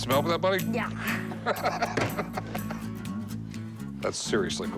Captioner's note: laughter